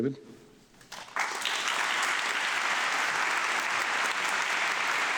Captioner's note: audience clapping